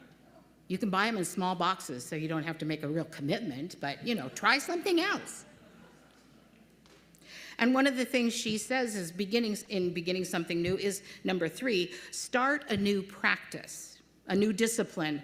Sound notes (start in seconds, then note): 5.4 laughter